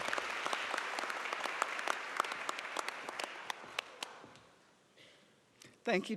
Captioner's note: applause